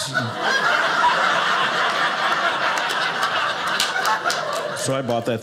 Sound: audience laughing

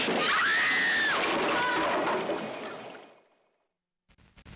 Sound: woman screaming

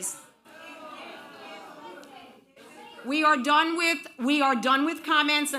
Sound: audience booing

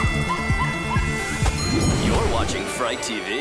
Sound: music playing, screaming; dinging

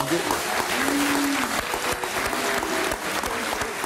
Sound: audience claps

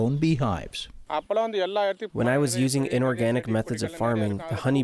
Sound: through translator

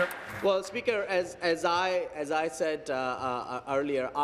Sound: applause

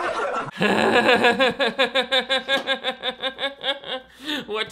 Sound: all laughs; laughing

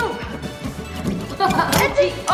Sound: sawing; cracking; laughing

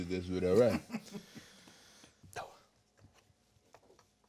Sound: man chuckling

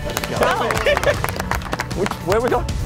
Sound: applaud

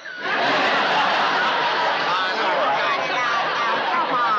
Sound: laughing

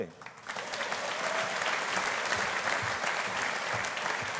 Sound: audience applauding

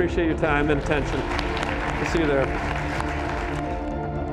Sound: applause

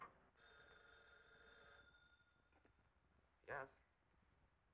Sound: telephone ringing

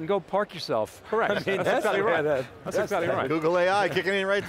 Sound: laughs

